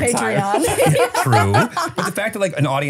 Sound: laughing

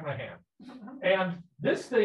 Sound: people laughing

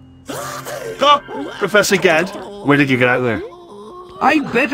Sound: Wheatley Voice

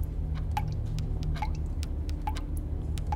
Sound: pen tapping

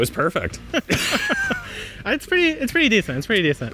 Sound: chuckles; laughs

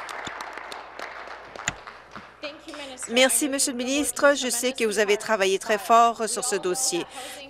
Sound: applause

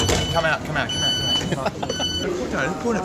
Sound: doors beeping loudly

